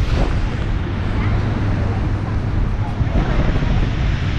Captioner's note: waves crashing